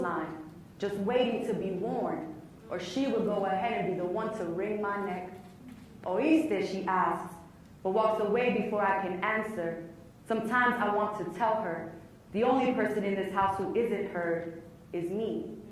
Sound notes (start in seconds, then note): none